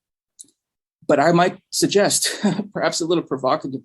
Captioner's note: chuckles